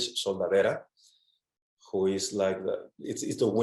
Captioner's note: speaks in foreign language